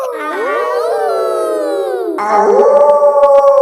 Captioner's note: howling; kids howling; wolf howling loudly